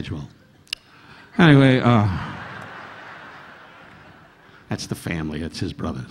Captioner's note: audience laughing